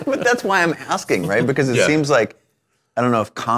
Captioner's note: laughing